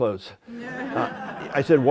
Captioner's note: laughter